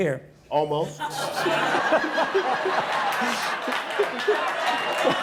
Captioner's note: audience laughing